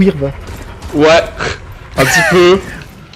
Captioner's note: giggle